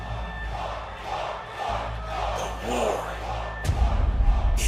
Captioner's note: fans chanting